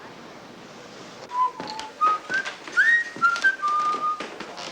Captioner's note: whistling